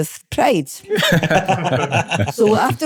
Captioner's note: laughter